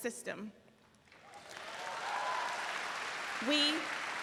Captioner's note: audience cheering